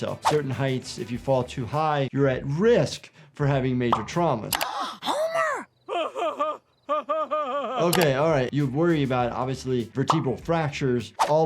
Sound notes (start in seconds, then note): 4.6 gasps; 5.8 Homer laughs